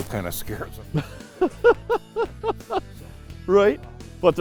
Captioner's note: laughter